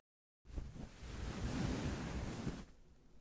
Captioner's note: shuffling sound